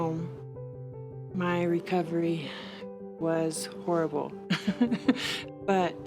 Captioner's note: chuckling